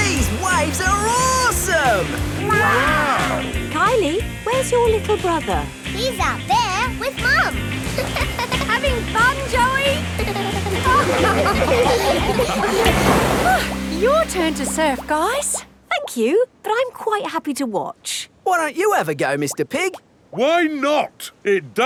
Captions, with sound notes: These waves are awesome! Wow! Kylie? Where's your little brother? He's out there with Mum. -(GIGGLES) -Having fun, Joey? (LAUGHING) Oh! Your turn to surf, guys! Thank you, but I'm quite happy to watch. Why don't you have a go, Mr. Pig? Why not!